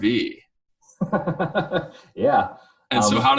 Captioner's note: laughing